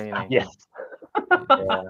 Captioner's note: laughs